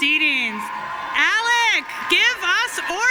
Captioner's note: audience cheering and applauding